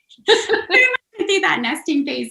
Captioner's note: laughter